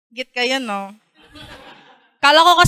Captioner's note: laughter